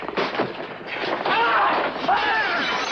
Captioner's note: breaking glass